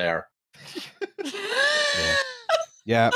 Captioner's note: laughter